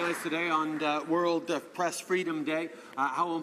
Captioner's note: some Applause